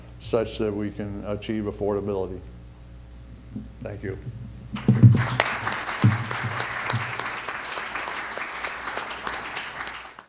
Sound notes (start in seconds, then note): 4.7 audience applause